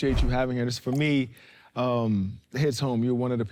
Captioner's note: titlecard clicks